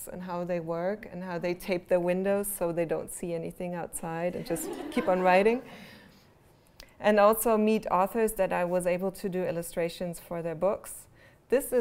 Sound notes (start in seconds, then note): 4.4 laughter